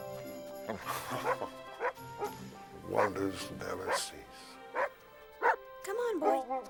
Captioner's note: chuckles